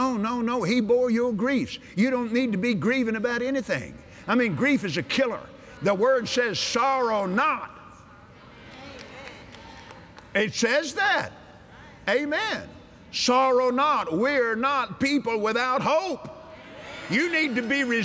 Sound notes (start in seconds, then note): 7.8 audience Agrees; 16.8 cheers